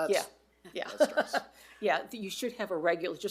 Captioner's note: laughs